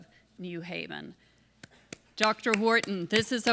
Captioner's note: applause